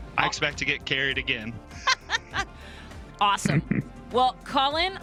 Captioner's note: laughs